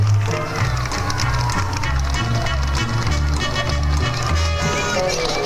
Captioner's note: crowd cheering; gentle upbeat music